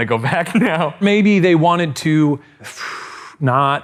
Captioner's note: blows strongly